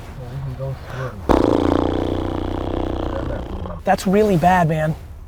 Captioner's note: blows raspberry